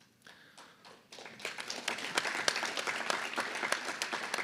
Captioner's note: applause